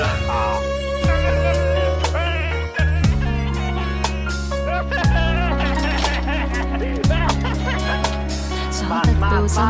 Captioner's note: the friend screaming crazily continues